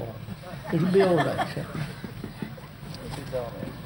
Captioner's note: laughter